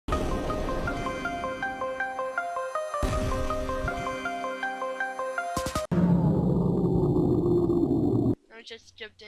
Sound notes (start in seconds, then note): 5.9 power goes out